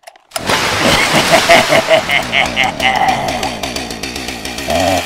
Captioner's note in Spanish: Risa desquiciada